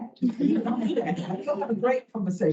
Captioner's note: all laugh